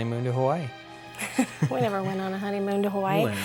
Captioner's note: chuckles